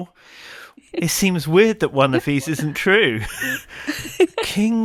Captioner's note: both laughing